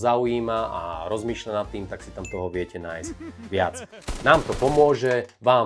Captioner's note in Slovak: smiech